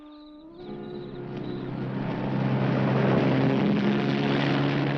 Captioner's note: engine rumbling